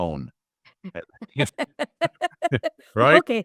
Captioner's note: laugh